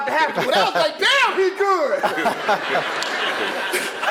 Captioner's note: laugh